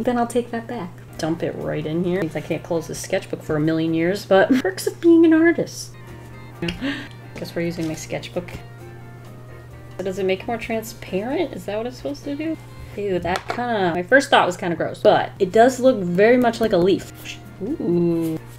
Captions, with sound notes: then I'll take that back. Dump it right in here I can't close this sketchbook for a million years but perks of being an artist. [Gasps] I guess we're using my sketchbook. But does it make more transparent? Is that what it's supposed to do? Ew, that kinda - My first thought was kind of gross, but, it does look very much like a leaf oooOooo!